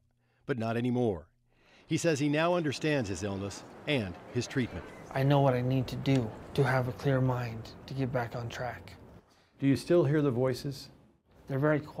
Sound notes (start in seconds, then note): none